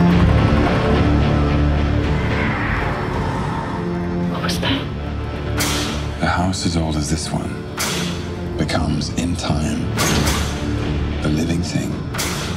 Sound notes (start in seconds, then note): 1.8 wind howling; 3.6 whispers